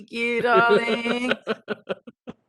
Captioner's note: laughing